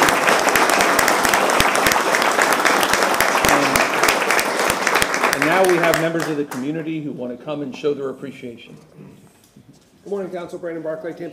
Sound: applause

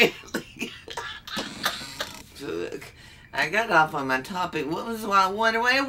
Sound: laughs

